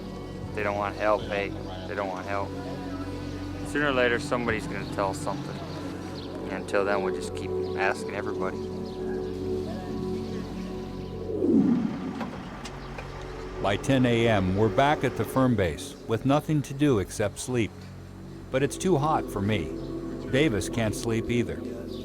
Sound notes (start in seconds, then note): 11.2 idling engine; 13.5 voiceover